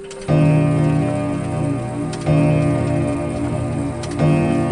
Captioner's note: grandfather clock striking